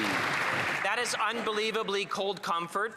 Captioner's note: some Applause